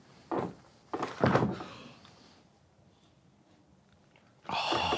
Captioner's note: cards hitting table; group collectively exhales